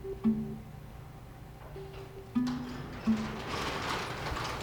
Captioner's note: door rattling